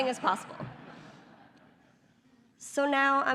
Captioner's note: laughter